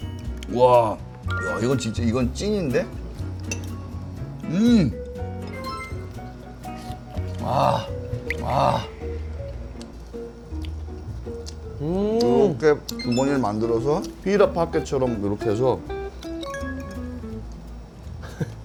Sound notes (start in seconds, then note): 11.3 full on eating, mukbang-style